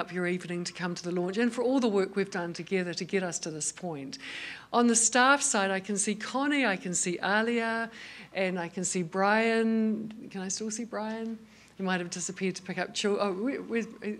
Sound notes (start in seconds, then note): none